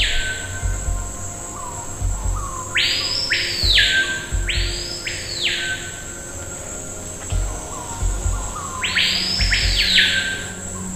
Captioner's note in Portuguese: som de cigarras